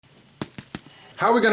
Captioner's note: corn smacking